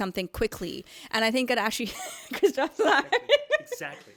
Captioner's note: mumbles and giggles